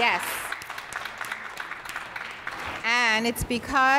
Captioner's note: audience applauds; claps